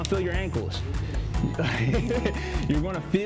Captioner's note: laughs